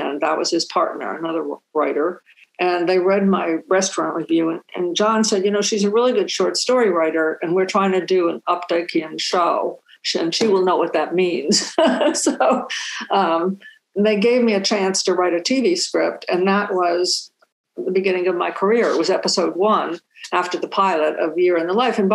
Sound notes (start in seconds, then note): 11.6 chuckling